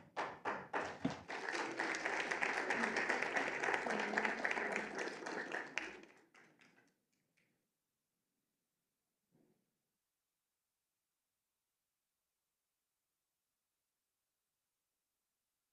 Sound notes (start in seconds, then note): 5.0 applause